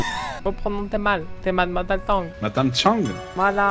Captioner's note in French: rires